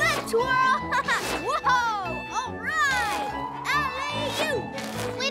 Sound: playful giggles

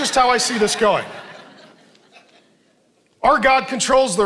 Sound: congregation laughing

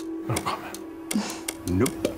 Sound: sigh

